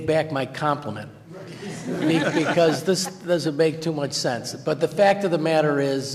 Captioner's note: laughter